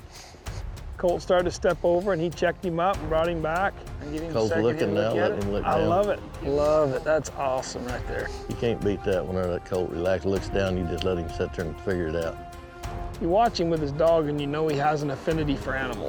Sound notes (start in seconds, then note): 3.9 all chattering